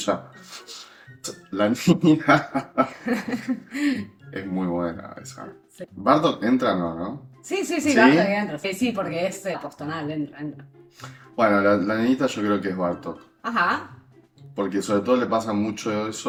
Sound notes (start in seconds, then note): 2.2 laughs